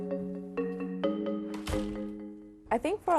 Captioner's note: door clicks